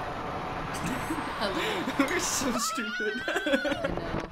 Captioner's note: chuckling